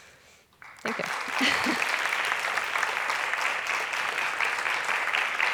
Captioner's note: applause